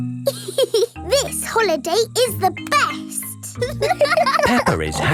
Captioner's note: giggles; laughing